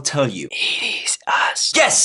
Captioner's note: whispering